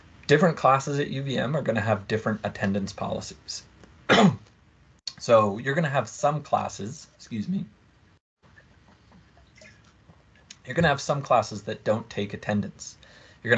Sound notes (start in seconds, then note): 4.0 coughs